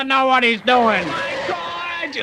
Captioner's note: tires squealing